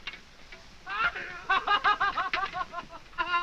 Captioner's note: laughing